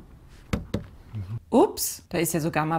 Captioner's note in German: Klopf Klopf